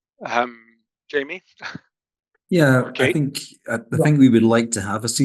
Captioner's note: laughs